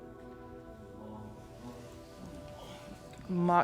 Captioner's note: speaking in foreign language